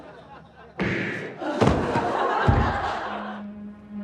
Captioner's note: punch